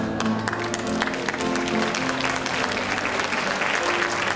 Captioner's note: cheering